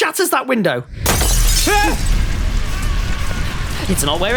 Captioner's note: glass shatters; scream